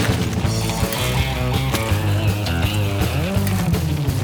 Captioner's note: energetic guitar music continues; bikes whooshing